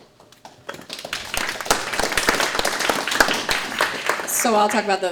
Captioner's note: audience clapping